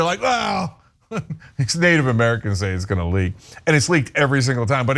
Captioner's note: laugh